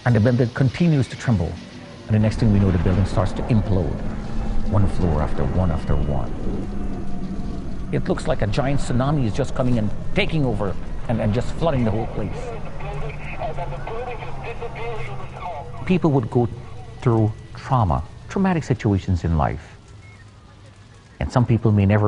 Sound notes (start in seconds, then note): 12.7 background radio